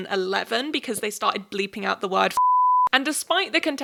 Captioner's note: beep